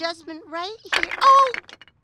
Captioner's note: clatter